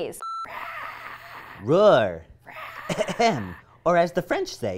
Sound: ahem

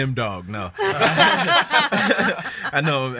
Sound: laughs

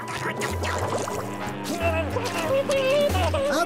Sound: muffled screaming

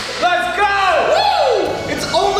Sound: cheering

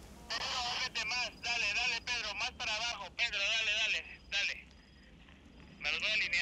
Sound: men on radio speak Spanish

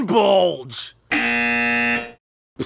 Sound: buzzer goes off

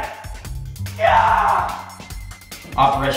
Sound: yelling

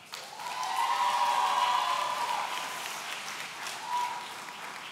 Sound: audience cheering

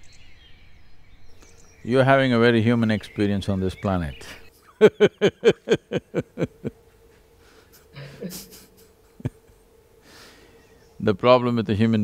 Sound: laughs

